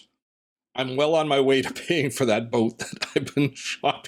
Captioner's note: laughing